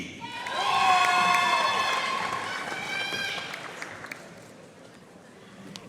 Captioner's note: audience cheering and applauding